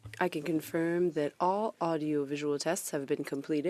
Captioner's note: speaking French